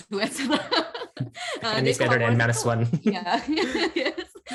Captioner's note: laughs